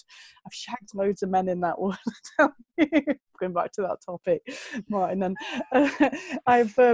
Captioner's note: lacht